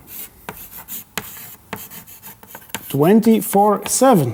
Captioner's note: chalk clacking